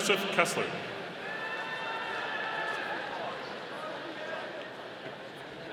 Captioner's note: audience cheering